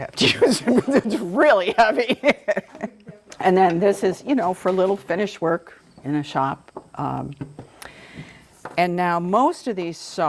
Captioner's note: laughs